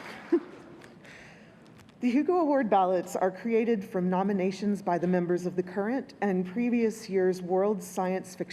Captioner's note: applause